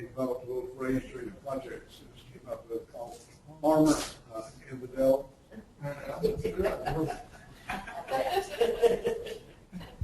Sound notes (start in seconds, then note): 0.2 distorted speech; 7.7 laughing